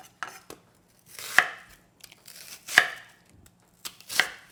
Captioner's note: chopping